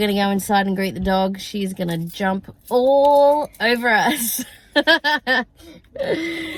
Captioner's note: chuckle